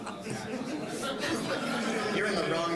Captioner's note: all laughing; general chatter